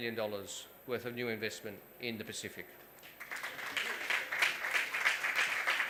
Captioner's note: applause